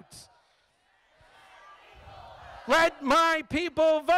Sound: crowd

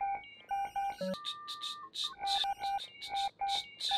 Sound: beeping

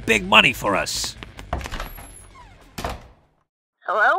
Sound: door opens, then shuts

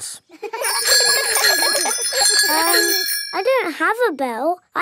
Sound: giggling and ringing bells

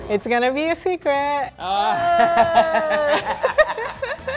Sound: laughing; upbeat Latino music

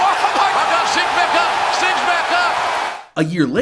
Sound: fans cheering

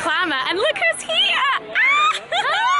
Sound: screams

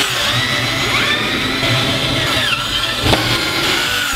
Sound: drill sounds

